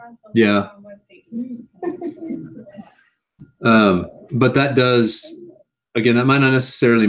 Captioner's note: laugh